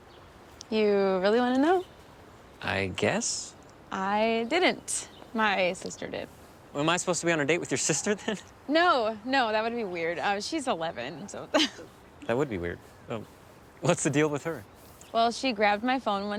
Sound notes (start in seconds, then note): 11.5 laughs